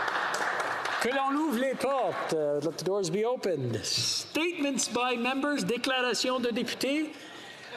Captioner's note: some Applause